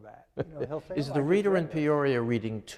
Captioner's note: laughing